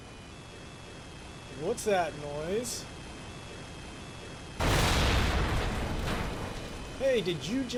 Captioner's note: drone sound; crashing sound